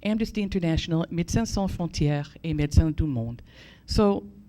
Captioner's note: foreign language